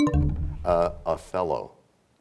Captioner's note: bell chimes, time expires